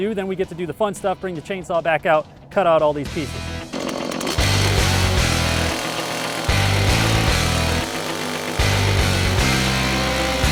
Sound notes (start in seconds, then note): 3.6 chainsaw running; 7.0 heavy metal music playing